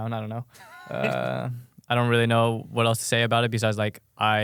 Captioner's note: laughs